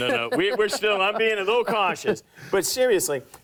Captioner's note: laughs